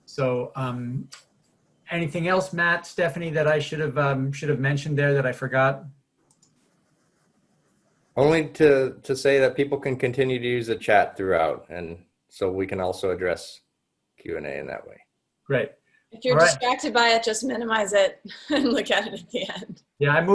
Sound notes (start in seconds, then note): 16.3 chuckles